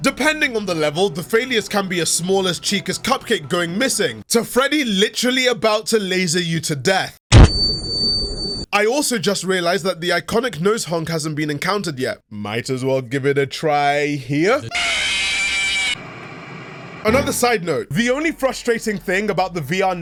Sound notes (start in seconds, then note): none